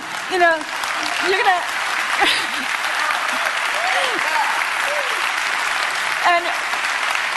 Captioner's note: applause